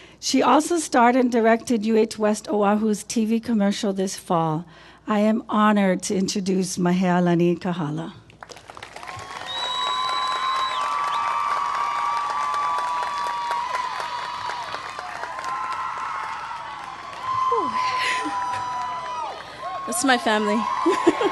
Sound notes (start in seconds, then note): 8.3 applause